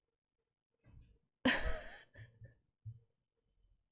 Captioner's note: laughs